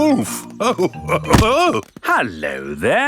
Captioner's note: chuckles